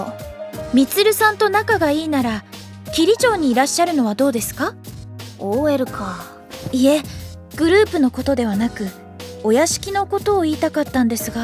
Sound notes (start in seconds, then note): none